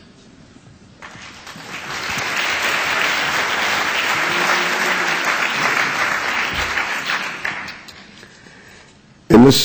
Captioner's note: applause